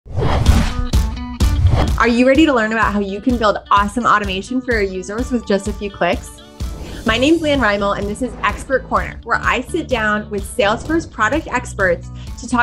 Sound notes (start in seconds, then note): 0.2 upbeat music; 1.5 whooshing